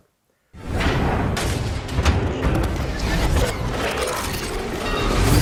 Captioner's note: safe doors bang open